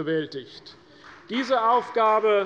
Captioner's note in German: Beifall bei Abgeordneten der CDU